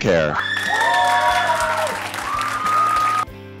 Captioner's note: applause